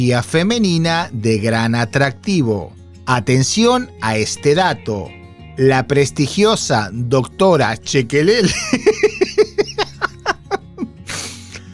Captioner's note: laughs